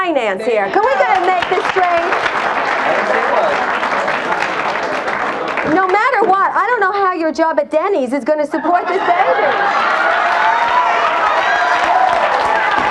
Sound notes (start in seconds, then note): 0.6 audience applauds; 8.5 audience laughs and cheers